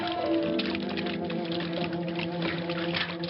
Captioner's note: clanging